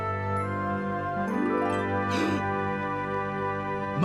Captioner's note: gasps